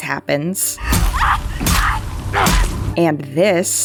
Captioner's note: Hammering sound and Yara screaming